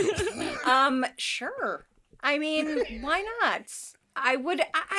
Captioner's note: laughs